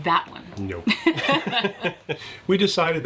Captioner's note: laughing